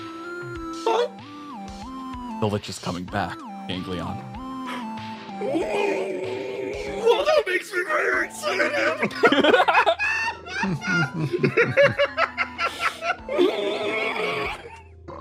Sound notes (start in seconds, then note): 5.4 Ganglion Processing Noises; 8.8 laughs